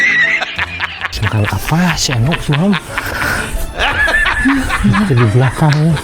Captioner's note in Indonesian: tertawa